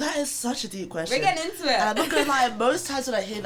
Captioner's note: laughs